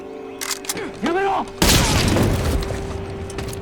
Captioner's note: shouts in Japanese; gunshot